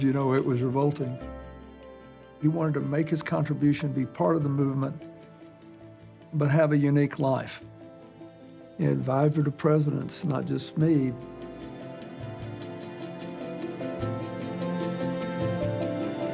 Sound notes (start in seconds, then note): none